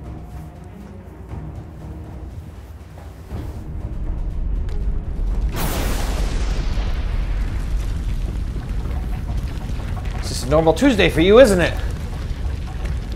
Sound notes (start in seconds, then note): 0.3 dramatic music; 5.7 sizzling, rumbling